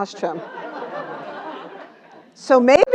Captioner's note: laugh